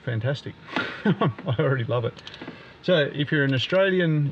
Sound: laughing

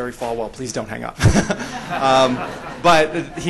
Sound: laughter

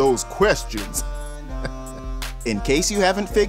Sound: chuckles

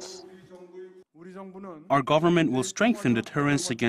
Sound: Korean

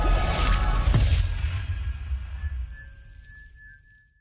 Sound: bells dinging

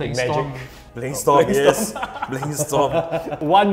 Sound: laughs

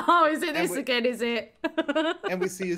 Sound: laughing

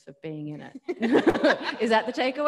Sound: laughs; audience laughing

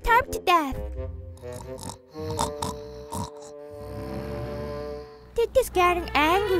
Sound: snoring

